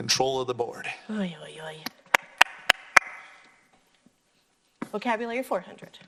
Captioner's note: claps